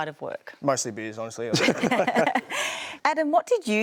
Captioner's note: laughter